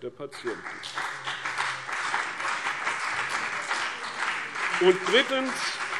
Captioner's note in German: Beifall CDU und BÜNDNIS 90/DIE GRÜNEN